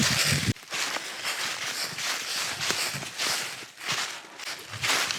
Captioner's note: leaves crunching